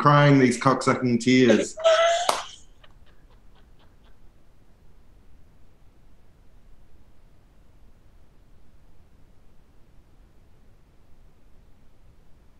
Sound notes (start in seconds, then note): 1.3 laughing; 2.1 claps